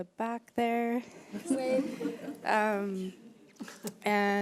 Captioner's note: audience laughs